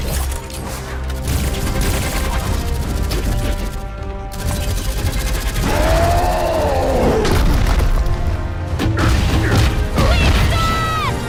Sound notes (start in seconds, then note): 5.6 roaring